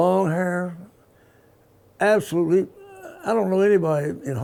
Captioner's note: stammers